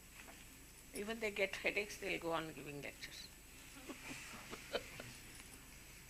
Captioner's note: shri mataji laughs